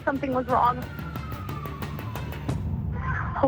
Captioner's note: police sirens wailing